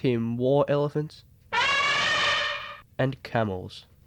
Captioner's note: elephant trumpet